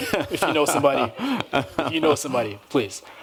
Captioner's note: laughter